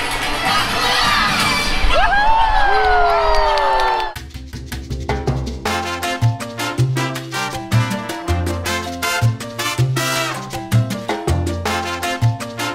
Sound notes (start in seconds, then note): 2.3 crowd cheers; 4.1 lively tropical music